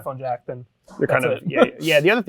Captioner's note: laughs